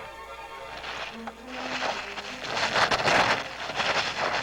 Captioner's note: building crumbling